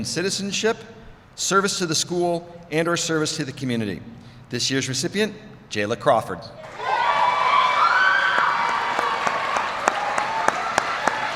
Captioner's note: applause